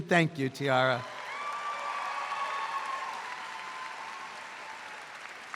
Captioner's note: audience applauds